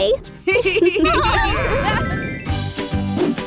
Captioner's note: laughter; pop music